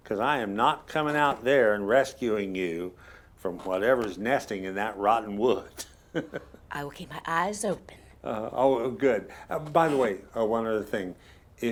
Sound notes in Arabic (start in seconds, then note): 6.1 تضحك